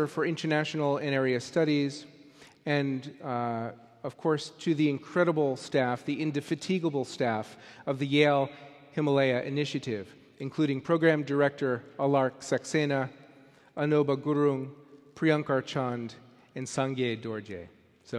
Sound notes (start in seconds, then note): none